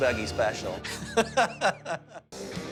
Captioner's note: laughs